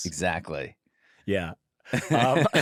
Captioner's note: laughter